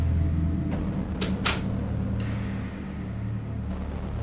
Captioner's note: shutting door, lock